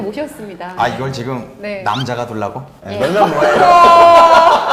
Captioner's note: laughs